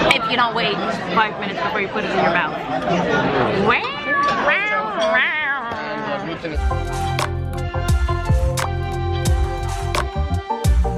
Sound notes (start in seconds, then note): 3.6 makes cat sounds; 6.5 upbeat music